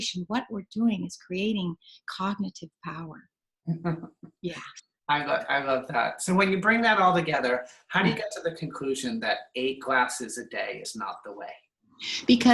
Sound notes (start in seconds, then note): 3.7 laughing